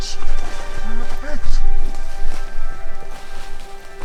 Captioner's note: branches whirring